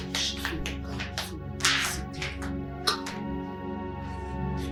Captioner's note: mumbling